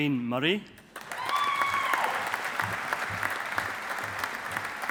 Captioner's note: audience applauding